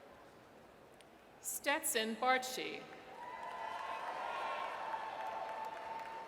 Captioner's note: audience cheers